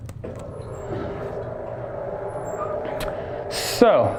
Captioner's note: board lever whirring